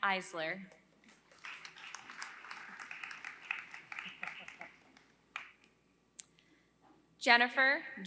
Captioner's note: applause